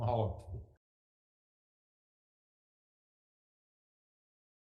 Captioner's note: silence